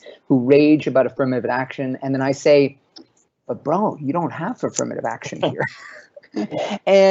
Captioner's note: laughts